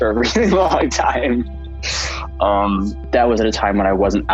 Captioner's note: laughs